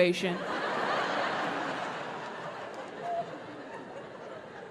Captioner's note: audience laughing